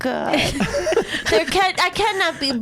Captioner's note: laughs